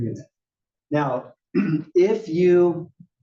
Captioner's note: cough